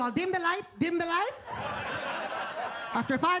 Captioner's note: attendees laughing